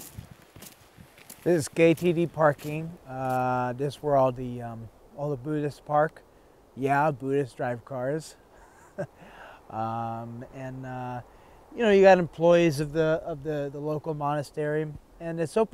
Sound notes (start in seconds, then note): 8.6 laughing